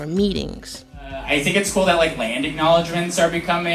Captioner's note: soundbite of archived recording